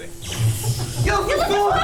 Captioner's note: zap!